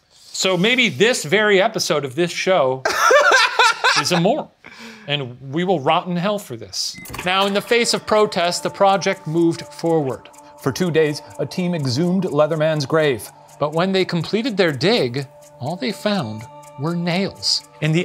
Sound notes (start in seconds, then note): 2.8 laughing